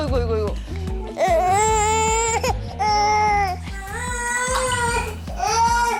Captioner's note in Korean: 아기 울음 소리